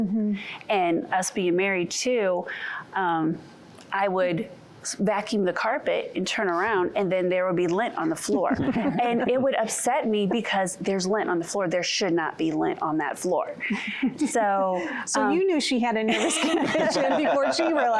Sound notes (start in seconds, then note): 8.5 laughter; 13.6 giggling; 16.0 laughter